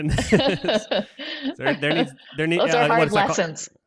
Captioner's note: laughs